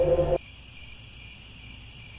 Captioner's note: crickets